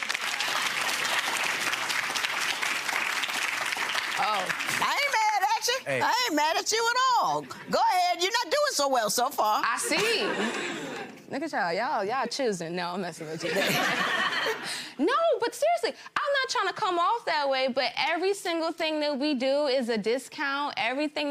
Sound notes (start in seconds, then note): 0.0 gallery applauds; 9.8 gallery laughs; 13.4 gallery laughs; 13.8 laughs